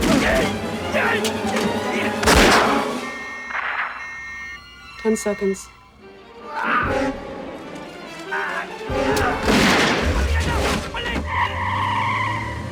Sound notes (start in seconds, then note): 0.7 beeping; 0.8 groaning; 6.3 yells; 9.6 Shouting In Korean